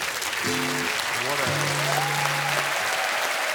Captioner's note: applause